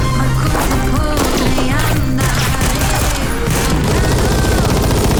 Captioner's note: gunshots